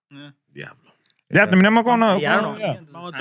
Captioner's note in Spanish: Hablando en idioma extranjero